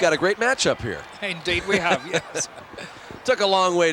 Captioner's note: chuckling